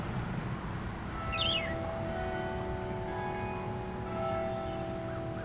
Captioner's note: bells tolling